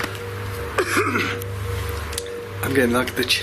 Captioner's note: coughs